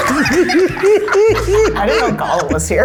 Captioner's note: laugh